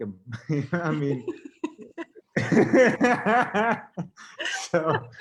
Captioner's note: both laughing